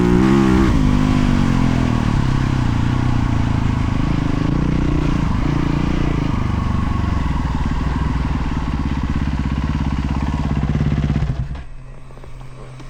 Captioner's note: engine roaring